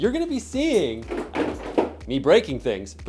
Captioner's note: breaking things